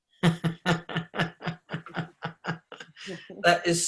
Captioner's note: laughing